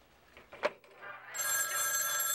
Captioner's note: phone ringing